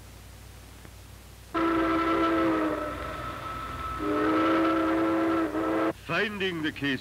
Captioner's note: train whistle blowing